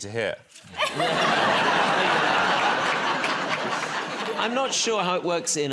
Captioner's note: laughter